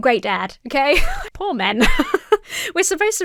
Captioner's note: laughs